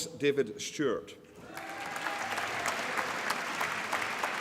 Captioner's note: applause